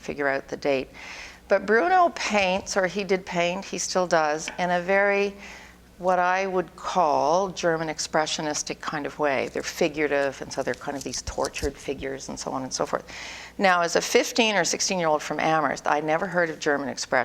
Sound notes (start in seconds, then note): none